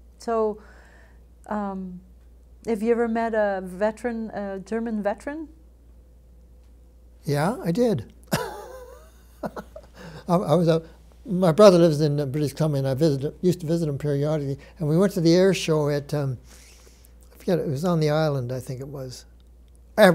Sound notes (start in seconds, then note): 8.3 laughs